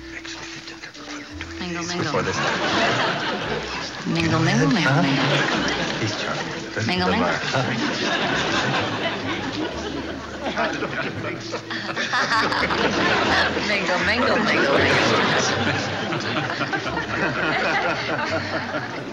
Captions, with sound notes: Mingle, mingle. Mingle, mingle, mingle, mingle. Mingle, mingle. (Ann laughs) Mingle, mingle, mingle, mingle.